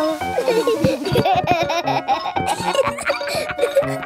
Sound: giggling

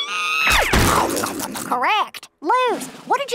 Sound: squeals; eating loudly

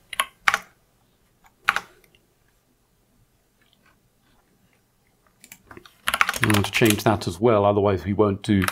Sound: blank Audio

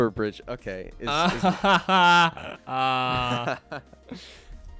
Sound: laughter

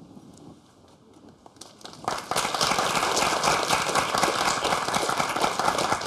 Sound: applause

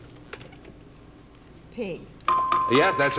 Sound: ding

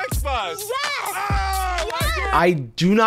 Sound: cheering

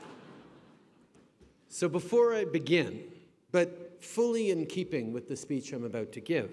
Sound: laughter

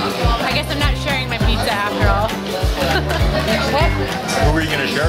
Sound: laughs

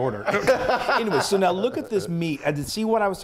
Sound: laugh

